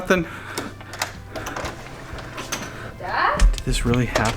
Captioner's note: door lock clicks